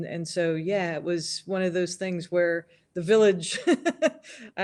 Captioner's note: laughs